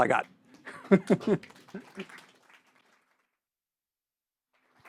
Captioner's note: audience clapping